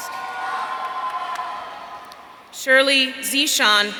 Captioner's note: audience cheering